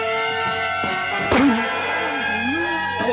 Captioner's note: groaning